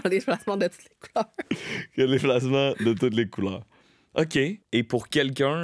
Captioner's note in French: rires